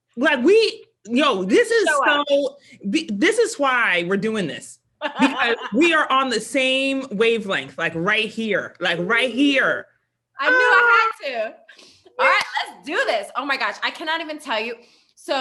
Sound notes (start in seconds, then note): 5.0 laughs; 10.7 sighs